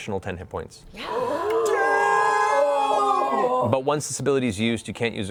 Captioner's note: cheering